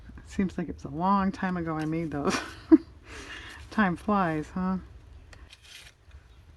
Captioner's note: laughs